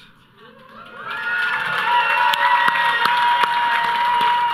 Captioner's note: audience cheering